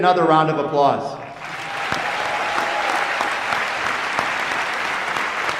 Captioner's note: applause